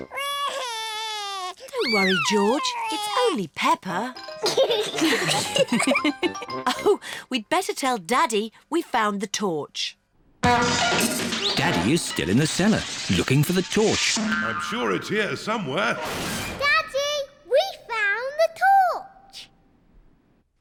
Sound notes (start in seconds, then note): 0.0 cries; 4.5 all laugh; 10.4 crashing